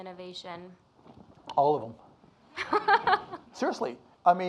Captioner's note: laughs